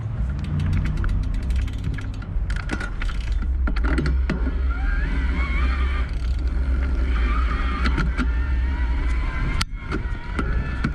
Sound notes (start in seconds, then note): 4.5 bicycle motor spinning